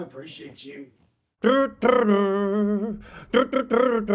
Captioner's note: humming